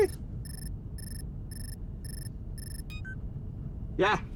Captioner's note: vehicle droning; phone ringing